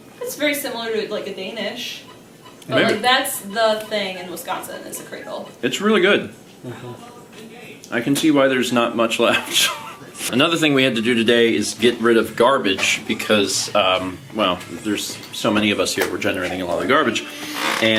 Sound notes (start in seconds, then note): 9.2 laughs